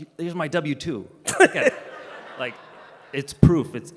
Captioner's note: Gary laughs